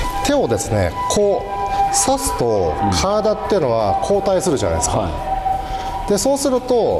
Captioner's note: ambulance siren sounds in the video